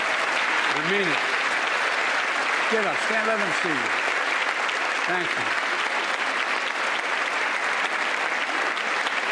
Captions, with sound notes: JUSTICE BREYER, THANK YOU FOR YOUR SERVICE. THANK YOU, THANK YOU, THANK YOU. [ APPLAUSE ] I MEAN IT.